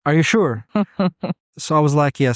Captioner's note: chuckles